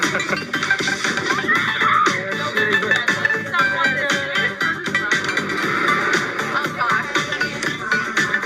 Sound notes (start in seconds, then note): 0.0 camper chuckling; 1.8 camper screaming; 2.9 people chattering